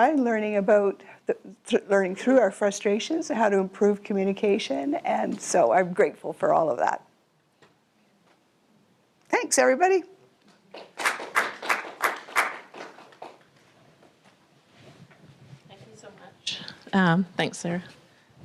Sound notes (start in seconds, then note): 10.7 audience clapping